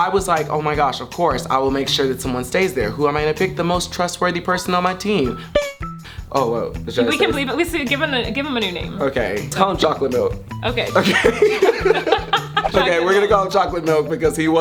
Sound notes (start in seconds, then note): 11.0 laughing